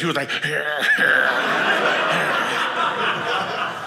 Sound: audience laughing

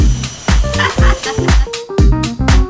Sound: laughing

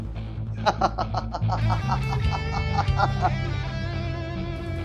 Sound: laughing

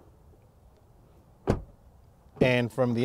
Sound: door slamming

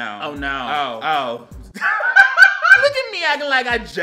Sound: laughs

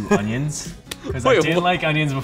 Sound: laughing

